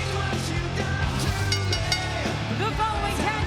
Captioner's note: bell ringing; graphics whooshing